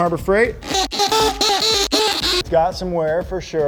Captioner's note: drilling